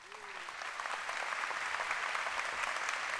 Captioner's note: applause